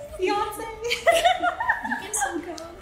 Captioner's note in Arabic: يضحك